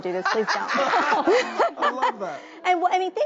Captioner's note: laughs